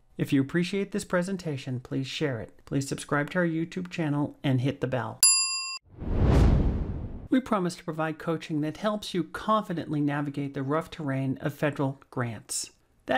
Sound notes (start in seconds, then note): 5.2 chiming; 5.9 whooshing